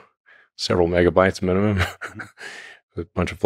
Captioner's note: laughs